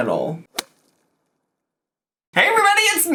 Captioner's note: graphics clicking